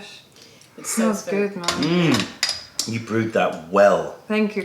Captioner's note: sips tea